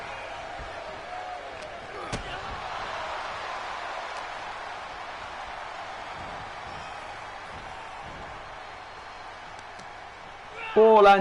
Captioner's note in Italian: Applauso